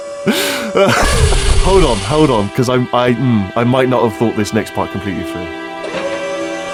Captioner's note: laughs